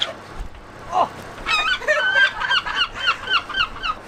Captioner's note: seagulls cry